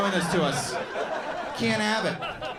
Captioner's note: audience laughing